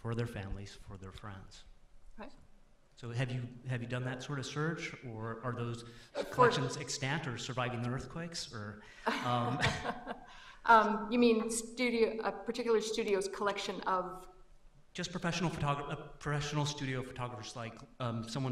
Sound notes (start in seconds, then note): 9.0 chuckles; 9.1 laughs